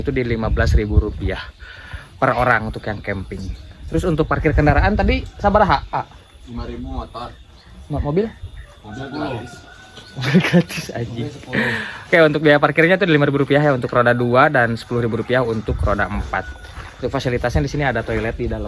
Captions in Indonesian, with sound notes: itu di Rp15.000 R000 per orang untuk yang kamping. Terus untuk parkir kendaraan tadi sabaraha A 5.000 motor mobil mobilis [tertawa] gratis anjing 10. Oke untuk biaya parkirnya tuh Rp5.000 ya untuk roda 2 dan Rp10.000 untuk roda 4. Untuk fasilitasnya di sini ada toilet di